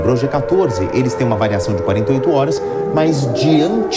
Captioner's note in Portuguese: Sirenes soando